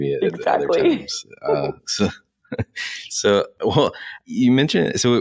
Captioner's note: laughter